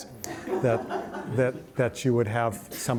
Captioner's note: audience laughs